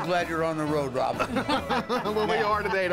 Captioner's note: laughter